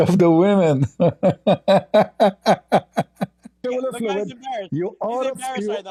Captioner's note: Ketawa